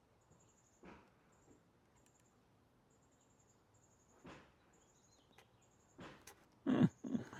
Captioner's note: silence